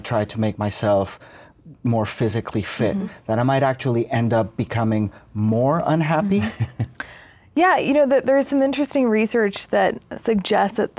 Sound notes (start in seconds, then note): 6.2 laughs